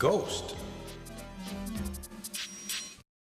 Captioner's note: echoes